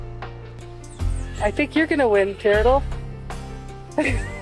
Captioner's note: laughs